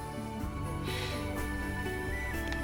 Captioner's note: sighs; gentle music